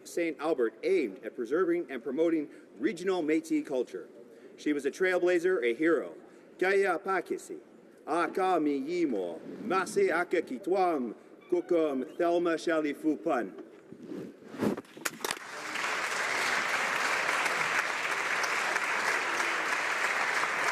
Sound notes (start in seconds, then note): 11.9 speaking native language; 17.9 applause